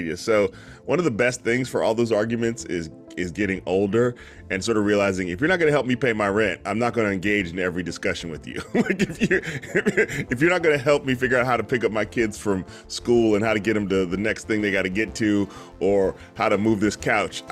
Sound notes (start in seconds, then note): 8.6 laughs